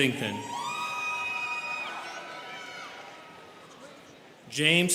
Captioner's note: students cheering